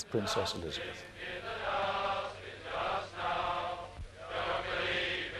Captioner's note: crowd